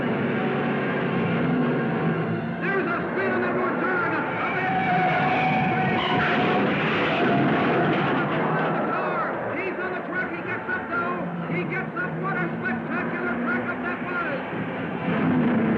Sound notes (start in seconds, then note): 5.1 tires squealing; 7.4 car crashing